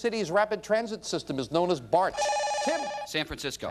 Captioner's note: bell rings